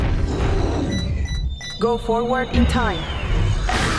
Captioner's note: beeping; robot voice; chomping